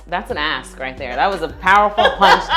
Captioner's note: laughs